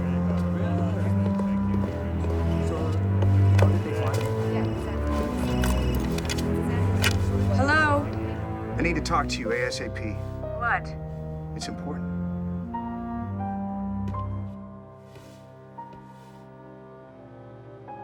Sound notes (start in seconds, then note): 4.1 phone ringing